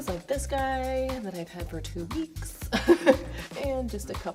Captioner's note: laughing